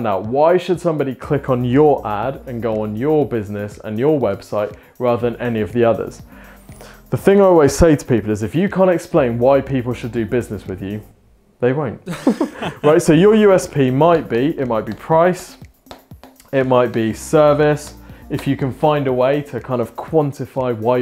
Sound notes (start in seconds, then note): 12.0 laughing